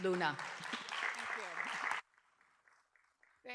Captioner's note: applause